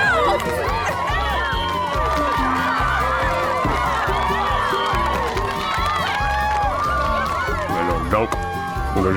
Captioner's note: cheering